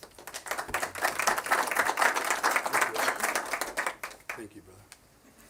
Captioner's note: applause